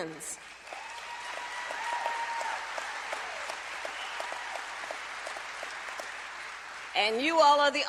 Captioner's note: applause